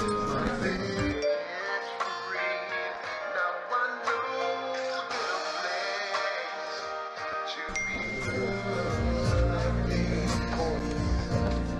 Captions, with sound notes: My best friend. [Text message alert] Now I know that I'm blessed, To be loved like this. [Text message alert]